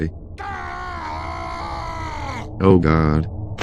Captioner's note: heavy screams in the distance